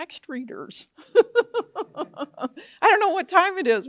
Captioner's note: laughs